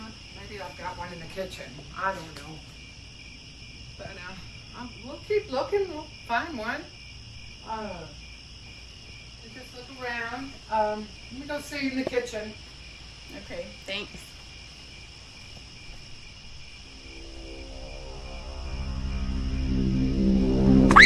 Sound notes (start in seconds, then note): 14.4 crickets; 16.8 eerie music